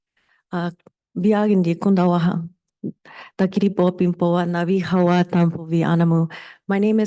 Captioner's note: speaking in foreign language